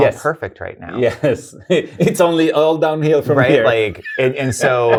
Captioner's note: laughs